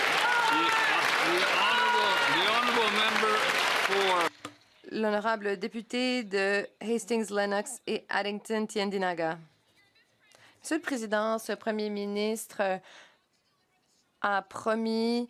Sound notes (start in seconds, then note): 4.6 some Applause